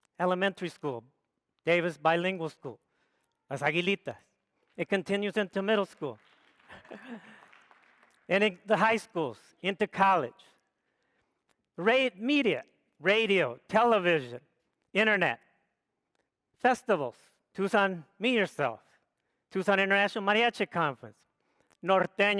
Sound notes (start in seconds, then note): 3.8 speaks foreign language; 5.9 audience applauds